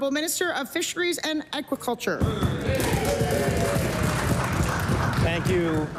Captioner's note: applause